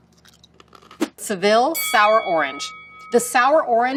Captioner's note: bell dings